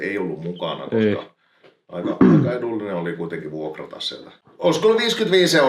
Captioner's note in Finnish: rykäisee